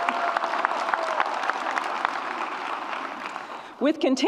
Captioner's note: audience cheers and applauds